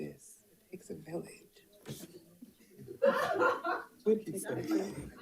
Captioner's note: participants laughing